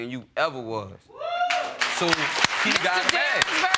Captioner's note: audience applauding